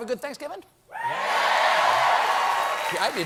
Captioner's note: cheers and applause